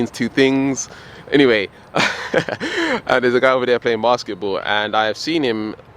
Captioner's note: laughs